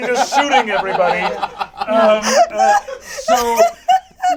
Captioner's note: all laugh